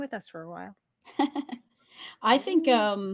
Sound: laughs

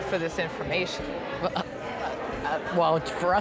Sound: stammering

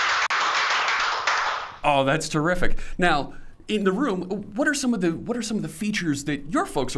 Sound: applause

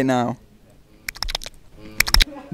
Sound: click

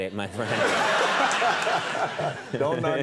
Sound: crowd laughing

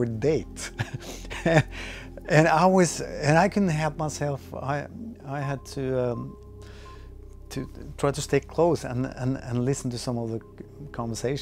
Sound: laughs

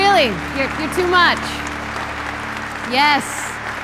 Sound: endless applause

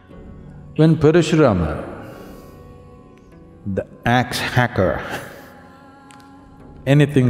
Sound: laughs

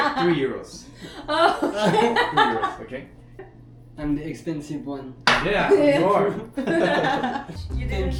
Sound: laughs

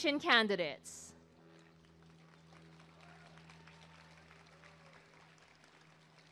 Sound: applause and cheering

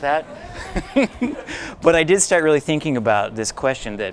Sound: laugher

